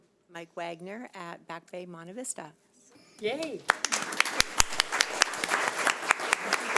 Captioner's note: audience applauds